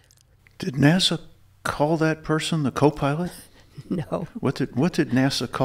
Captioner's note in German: lacht